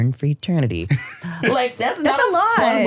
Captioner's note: laughs